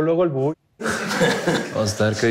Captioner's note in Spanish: Risas